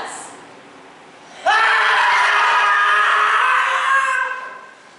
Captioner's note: AGAMEMNON screams offstage